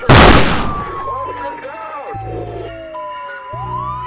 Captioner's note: multiple gunfire; police radio